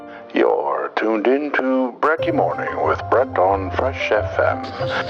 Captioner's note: voiceover